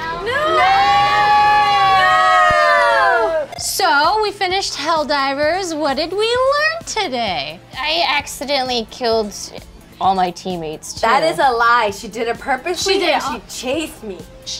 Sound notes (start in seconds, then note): 0.0 group screaming